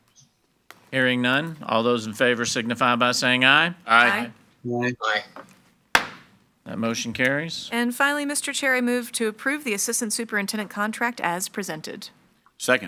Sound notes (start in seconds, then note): 5.9 gavel bangs